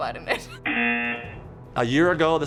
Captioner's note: buzzer